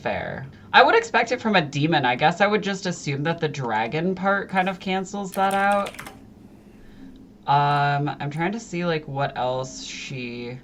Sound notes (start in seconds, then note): 8.9 clack clickity